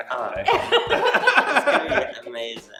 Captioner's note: laughing